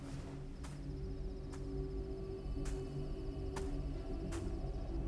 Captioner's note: footsteps plodding